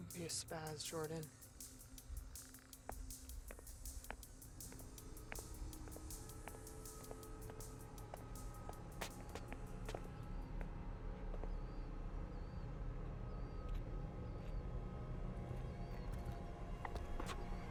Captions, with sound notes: Don't be a spaz, Jordyn. (footsteps tapping) (tense music) (tense music continues)